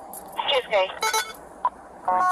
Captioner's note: radio chatter